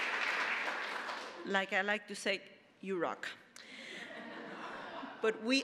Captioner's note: applause; audience laughing